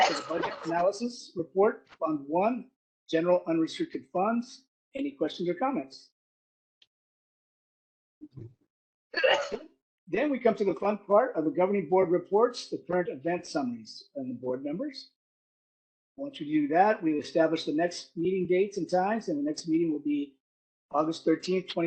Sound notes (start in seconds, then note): 9.1 caugh